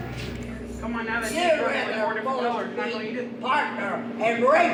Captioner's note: shouting